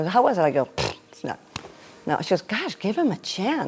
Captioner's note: blows raspberry